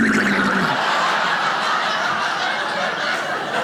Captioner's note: audience laughing